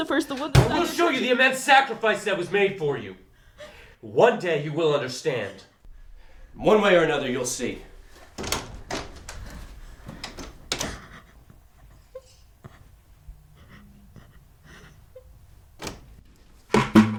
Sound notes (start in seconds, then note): 10.1 shutting door, lock; 15.1 opening door